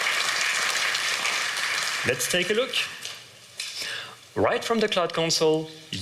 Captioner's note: applause